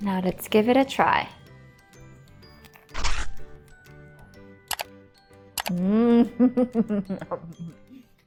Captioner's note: chuckling